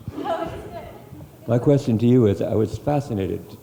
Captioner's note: voiceover